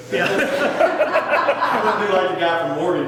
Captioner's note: people laughing